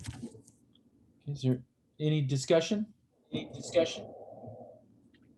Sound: echo

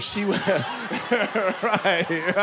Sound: laughter

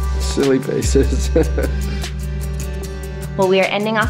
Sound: laughs

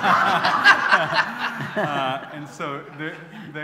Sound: laughter

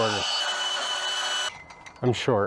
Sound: saw grinds

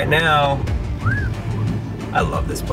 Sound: driver whistles

